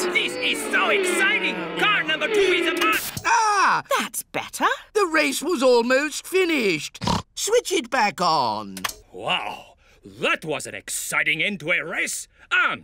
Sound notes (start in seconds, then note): 3.4 gasps; 7.0 snorts